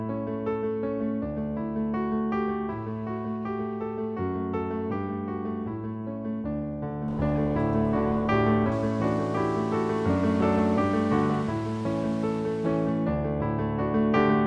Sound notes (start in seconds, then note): 7.1 water rushing